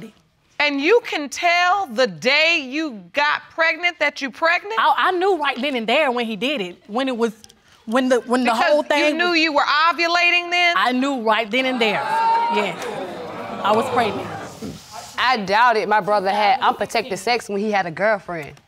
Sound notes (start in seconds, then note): 11.6 audience exclaiming